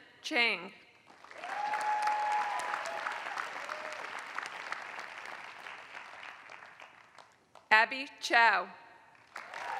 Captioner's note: applause; applause